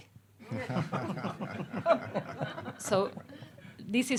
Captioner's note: audience laughing